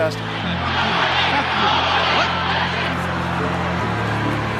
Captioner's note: crowd shouting